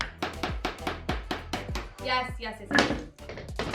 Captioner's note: hammer thumping; hammer clattering